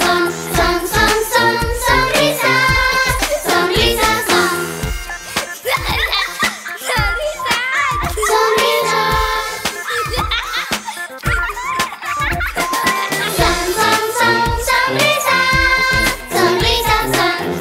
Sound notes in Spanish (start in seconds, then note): 4.8 Música Alegre; 9.7 Risas